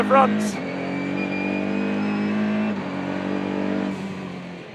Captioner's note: car engine roaring